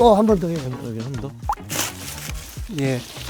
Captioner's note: snip